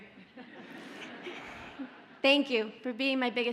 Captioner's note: audience laughs